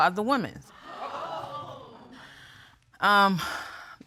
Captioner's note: audience gasps